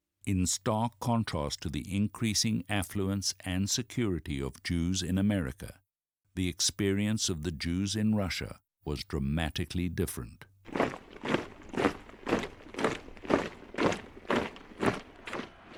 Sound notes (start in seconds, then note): 10.6 rhythmic marching footsteps